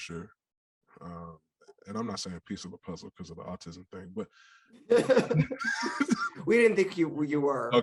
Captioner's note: all laugh